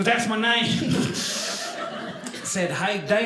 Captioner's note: audience laughing